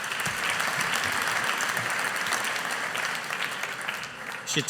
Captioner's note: audience applauding